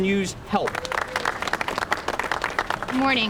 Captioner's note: applause